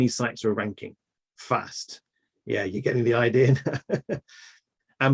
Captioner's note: laughs